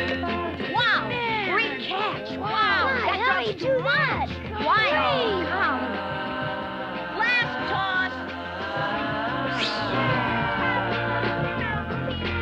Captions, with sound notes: - Wow. Great catch. Wow. - That dog's too much. - My, oh golly. - Last toss. (swishing)